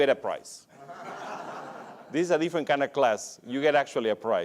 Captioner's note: laughs